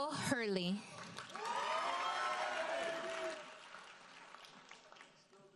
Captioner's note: audience cheers and applauds